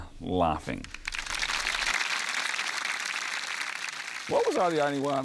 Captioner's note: applause